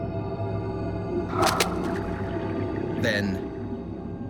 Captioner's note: snap